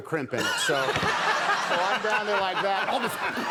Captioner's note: audience laughing; Conan laughing